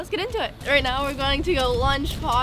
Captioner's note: horse walking